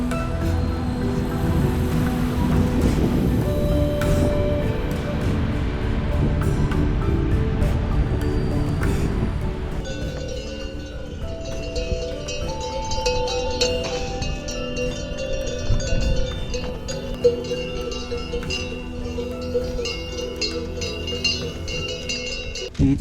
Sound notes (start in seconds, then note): 10.2 cow bells